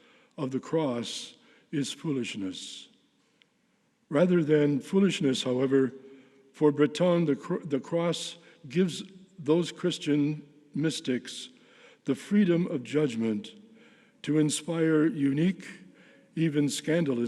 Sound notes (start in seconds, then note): none